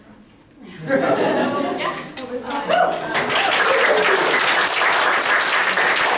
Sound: laugher and applause

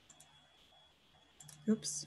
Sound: clicking

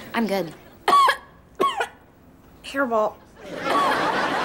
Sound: coughing

